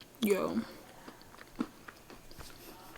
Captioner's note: chewing sounds